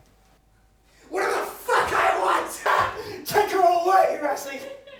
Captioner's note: laughs